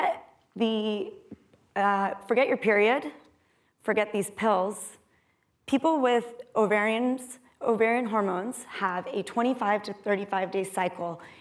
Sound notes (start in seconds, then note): none